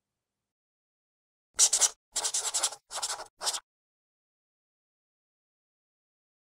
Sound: writing on chalkboard sounds

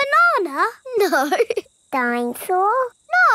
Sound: laughing

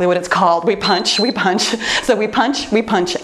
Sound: timer beeps

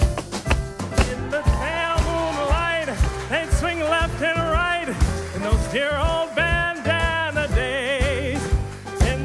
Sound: applause

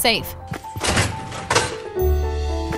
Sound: upbeat calm music; door creaking

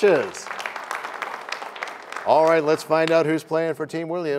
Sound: applause

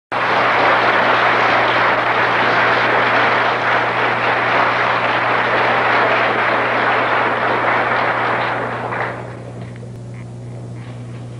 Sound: applause

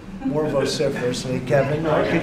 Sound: laughter

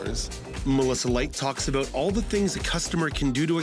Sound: voiceover

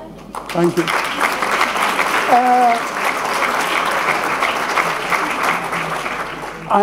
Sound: applause

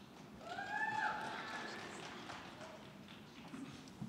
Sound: scattered cheering

